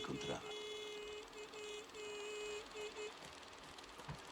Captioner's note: horn